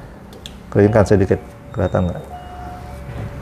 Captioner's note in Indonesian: suara bel pintu